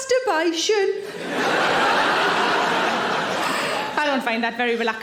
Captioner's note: audience laughing